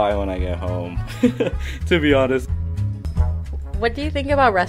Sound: laughs

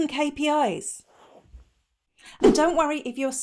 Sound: air whooshing

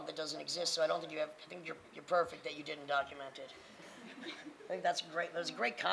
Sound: laughing

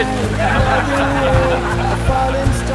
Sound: they laught

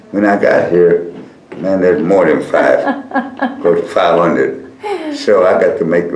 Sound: laughter

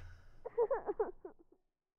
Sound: muffled child crying

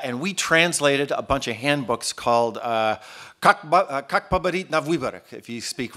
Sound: speaking Russian

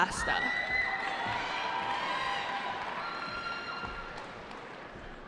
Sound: cheering

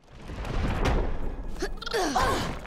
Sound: grunting

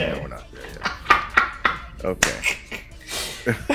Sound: laugh

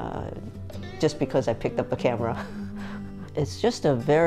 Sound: chuckling

